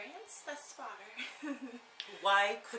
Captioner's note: laughs